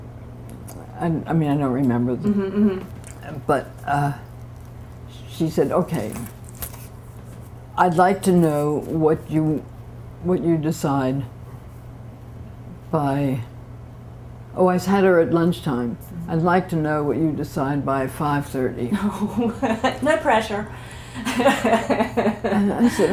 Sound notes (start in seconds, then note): 19.0 laughter; 21.2 laughter